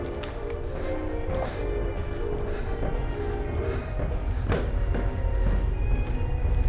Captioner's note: footsteps descending; deep ominous music